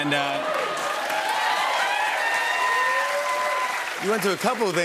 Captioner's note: cheers and applause